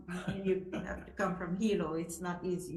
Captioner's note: laughing